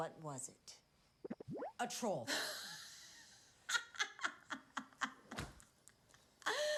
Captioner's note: laughs